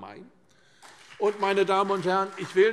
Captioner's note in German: Beifall CDU und BÜNDNIS 90/DIE GRÜNEN